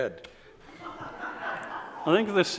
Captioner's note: audience laughs